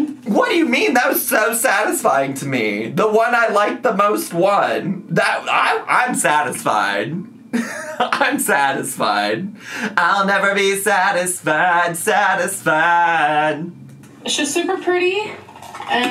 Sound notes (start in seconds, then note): 7.5 laughs